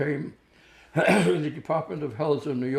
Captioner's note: clears throat